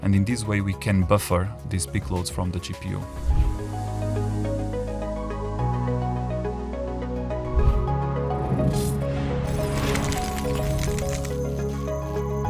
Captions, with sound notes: and in this way, we can buffer these big loads from the GPU. (graphics whooshing)